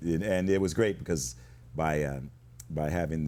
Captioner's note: none